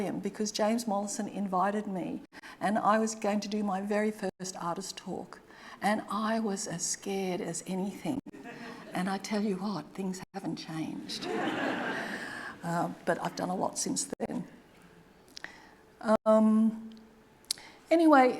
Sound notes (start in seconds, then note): 11.1 audience laughing